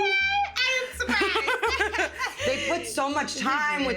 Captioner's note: both laughing